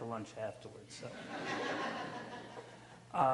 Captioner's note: audience laughs